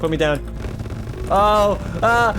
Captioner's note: game bugging out